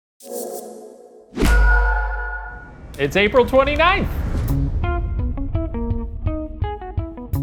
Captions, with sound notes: (A bright whoosh with a glimmer of hope in the distance) - It's April 29th! (upbeat music)